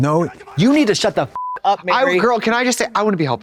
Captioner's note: beep